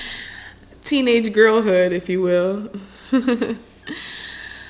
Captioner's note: chuckles